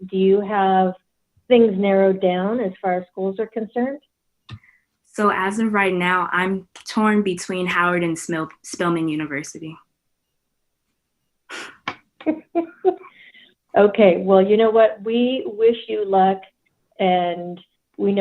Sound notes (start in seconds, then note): 12.2 laughs